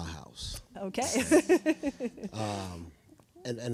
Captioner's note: laughing